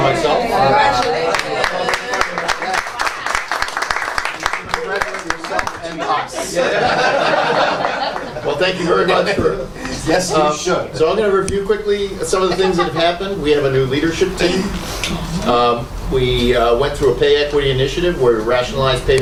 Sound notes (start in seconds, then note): 0.9 round of applause; 6.4 laughter